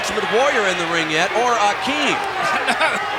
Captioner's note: chuckling